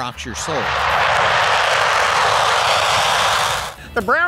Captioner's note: jet engine roaring